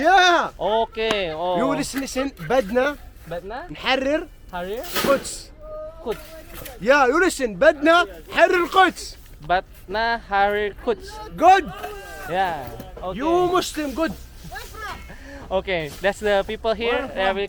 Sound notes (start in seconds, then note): 1.4 arabic words